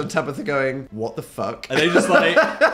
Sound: laughs

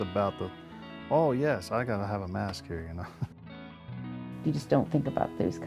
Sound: chuckles

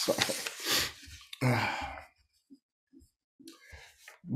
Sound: chuckles; sniffles

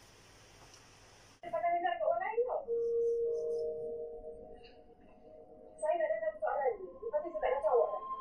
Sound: television sounds

